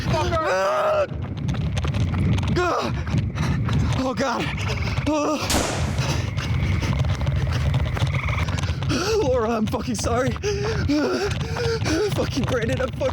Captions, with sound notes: -Fuck! -Get the fuck out! -[gasping] Oh, God. Oh! -[sound of shot fired] Laura, I'm fucking sorry. Fucking Brandon, I'm fucking sorry.